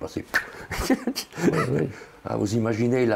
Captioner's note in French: Rire